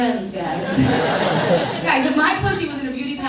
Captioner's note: audience laughs